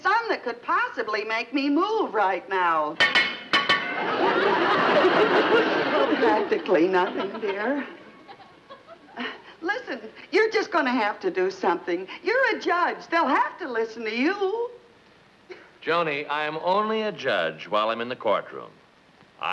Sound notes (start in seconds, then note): 3.0 metal clanking